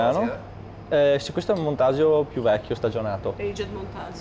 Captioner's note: speaks dialect